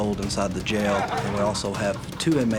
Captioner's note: laughter